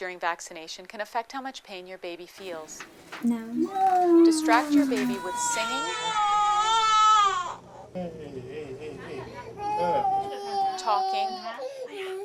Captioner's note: baby crying